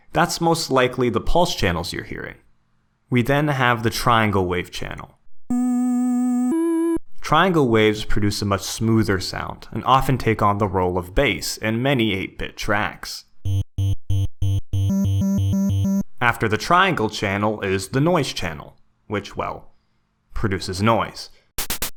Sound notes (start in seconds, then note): 5.5 triangle Wave Sound Plays; 14.8 triangle Wave Sound Plays Again